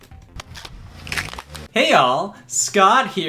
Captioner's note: package cracks